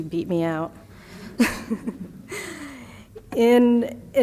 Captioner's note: laughter